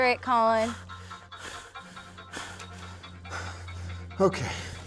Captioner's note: panting